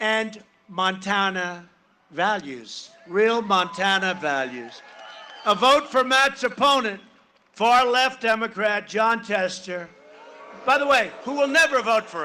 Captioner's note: cheering and applause